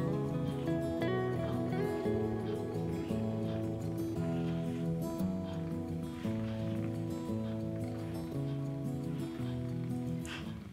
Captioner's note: assistant manager purring